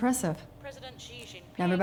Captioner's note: news report in the background